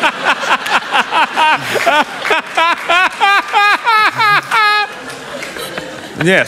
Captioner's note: laughter